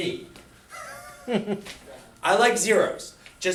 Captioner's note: laughs